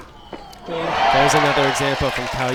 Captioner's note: crowd applauds